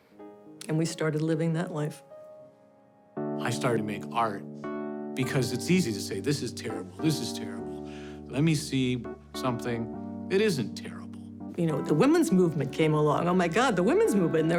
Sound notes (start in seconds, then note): none